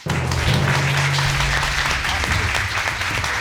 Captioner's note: audience applauding